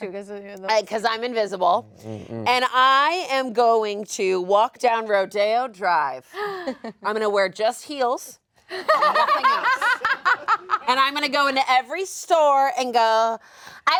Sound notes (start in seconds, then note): 8.8 all laugh